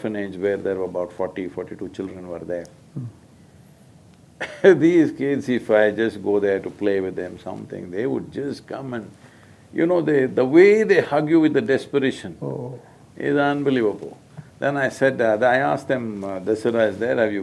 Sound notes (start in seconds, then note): 3.5 laughs